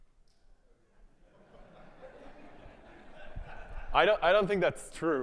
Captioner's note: audience laughing